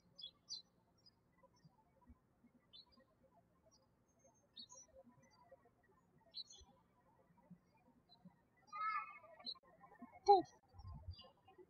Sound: birds chirping

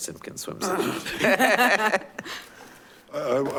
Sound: laughing

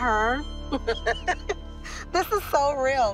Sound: laughs

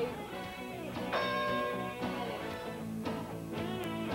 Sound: bell rings

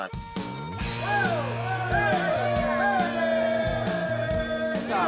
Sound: cheering

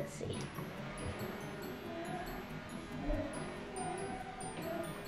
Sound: plane buzz

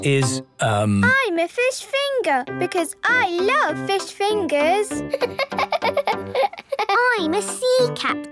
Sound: laughing

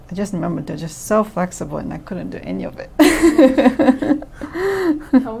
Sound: all: laughs

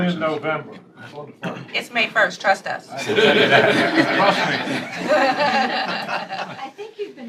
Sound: laughter

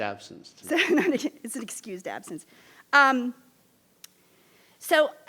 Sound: laughs

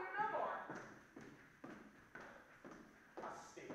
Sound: sharp footsteps

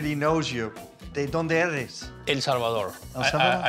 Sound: speaking Spanish

